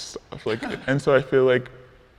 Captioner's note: people chuckling